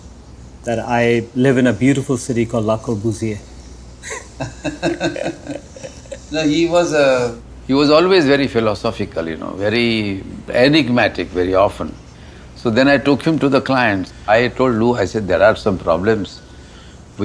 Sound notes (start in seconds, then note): 4.0 both laugh